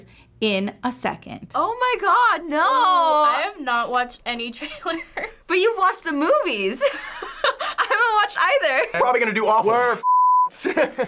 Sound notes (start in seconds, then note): 5.0 chuckles; 6.8 laughs